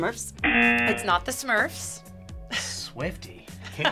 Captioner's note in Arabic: الجرس